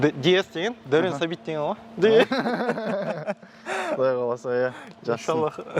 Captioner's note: laughing